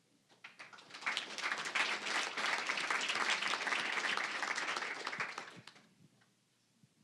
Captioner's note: applause